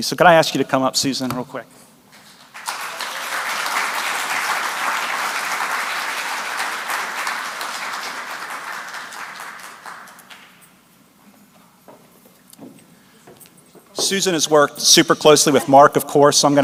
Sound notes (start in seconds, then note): 2.7 applause